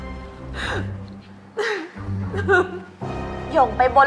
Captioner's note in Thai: เสียงร้องไห้